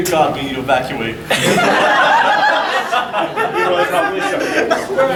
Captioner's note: audience laughing